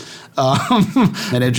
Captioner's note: laughing